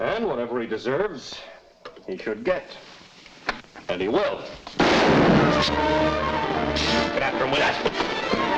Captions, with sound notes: And whatever he deserves, he should get. And he will. (gun fires) (thrilling music) Get after him with that!